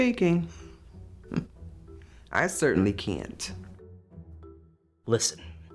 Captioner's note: scoffs